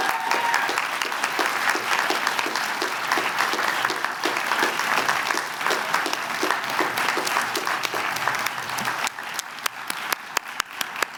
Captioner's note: applause